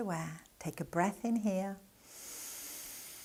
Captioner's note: breathing gently